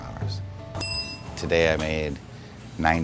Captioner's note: bell rings